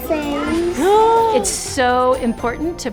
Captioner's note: speaking in foreign language